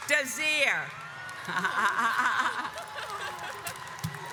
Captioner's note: laughs; audience cheers